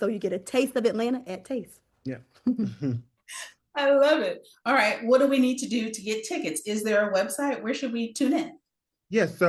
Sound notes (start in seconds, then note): 2.4 chuckles